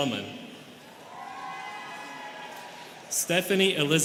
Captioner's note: students cheering